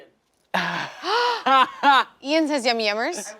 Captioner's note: gasps; laughing